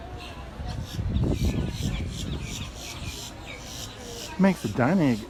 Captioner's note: birds chirping